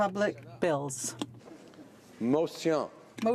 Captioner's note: speaking French